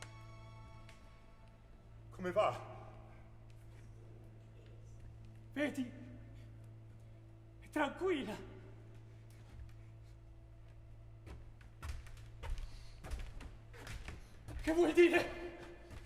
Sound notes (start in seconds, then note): 1.5 speaking in Italian; 10.6 footsteps thumping; 13.9 speaking in Italian continues